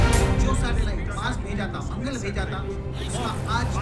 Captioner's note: news on TV